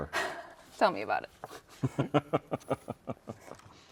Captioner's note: laughs